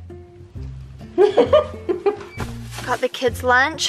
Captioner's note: laughing